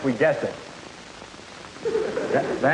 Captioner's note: sound of students laughing